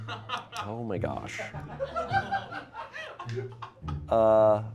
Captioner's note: laughter